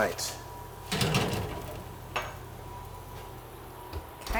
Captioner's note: pan clanking